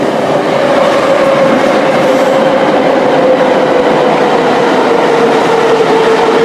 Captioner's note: braking - arrival at the station